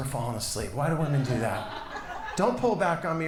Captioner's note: audience laughs